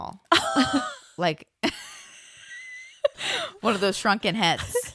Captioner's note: laughs